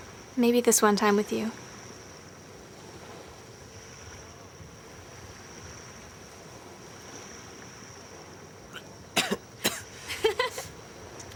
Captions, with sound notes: - Maybe this one time with you. (Tom coughing) (Rachael giggling)